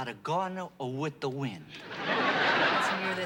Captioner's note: laughter